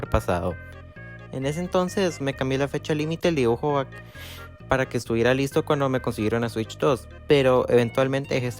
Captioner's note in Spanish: respira